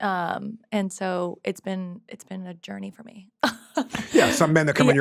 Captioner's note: laughs